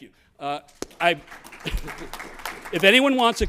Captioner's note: applause